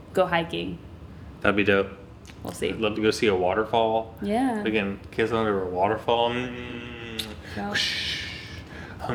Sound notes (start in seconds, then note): 6.2 vocalizes